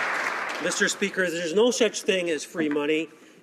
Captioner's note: applause